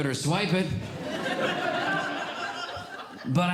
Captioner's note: audience Laughing